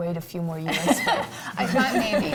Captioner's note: laughs